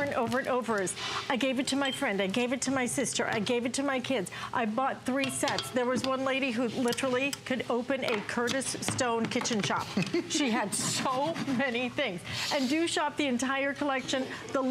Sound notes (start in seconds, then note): 9.9 laughter